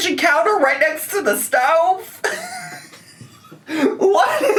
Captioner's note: laughs